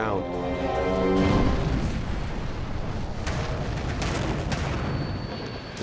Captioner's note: plane engine sound; explosion